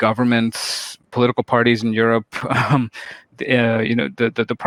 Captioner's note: chuckles